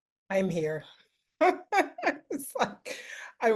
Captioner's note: laughs